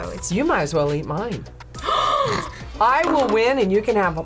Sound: gasps

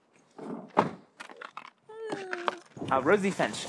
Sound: car door

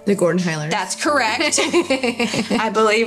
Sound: laughing

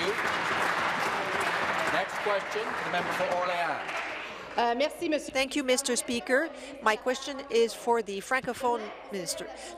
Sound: some Applause

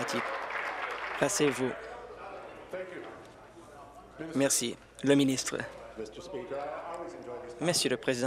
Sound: applause

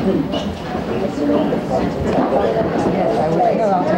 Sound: people chattering

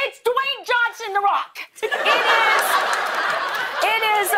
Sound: laughter

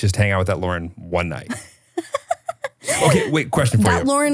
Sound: laughing

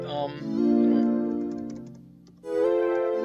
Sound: pressing letters on keyboard

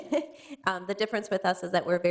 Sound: chuckles

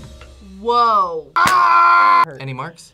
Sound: yells

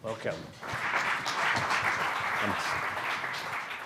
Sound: audience clapping loudly

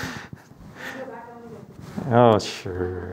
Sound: chuckles; member speaks faintly

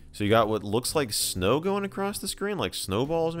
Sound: none

